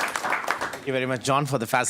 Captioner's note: audience applause